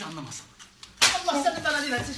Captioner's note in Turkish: şaplak